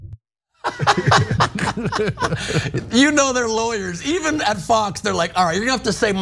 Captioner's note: laugh